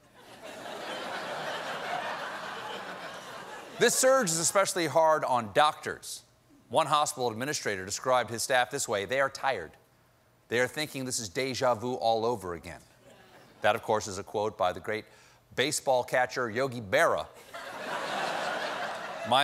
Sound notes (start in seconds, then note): 4.1 laughter